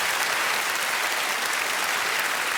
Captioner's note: applause